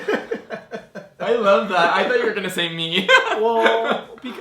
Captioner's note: laughs